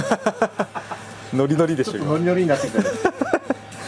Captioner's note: laughs